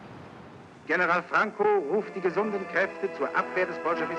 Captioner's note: male radio announcer speaking German over the radio